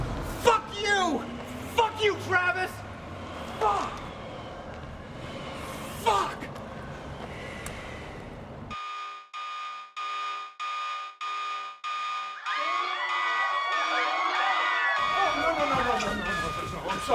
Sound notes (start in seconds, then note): 8.7 siren beeping; 12.4 screaming